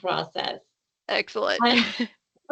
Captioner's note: laughing